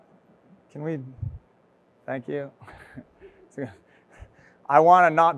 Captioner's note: chuckles